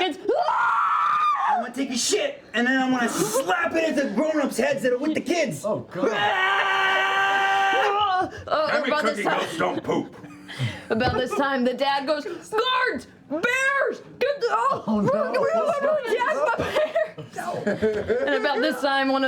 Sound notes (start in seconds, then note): 0.3 terrified screaming; 6.0 screams